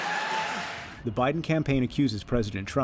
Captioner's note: cheering and applause